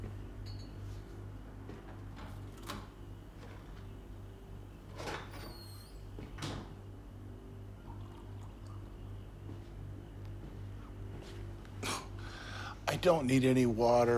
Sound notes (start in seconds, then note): 7.9 water pouring